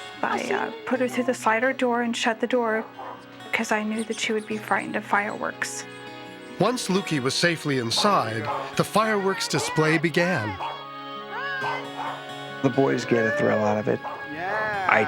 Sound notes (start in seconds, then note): 10.5 Lukee barks